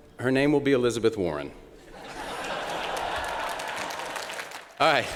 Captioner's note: laughter